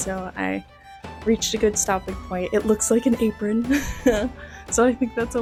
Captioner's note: laughter